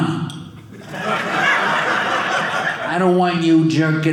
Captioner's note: audience laughing